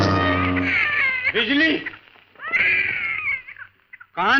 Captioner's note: baby crying